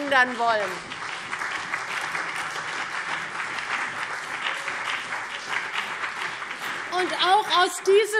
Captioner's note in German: Beifall CDU und BÜNDNIS 90/DIE GRÜNEN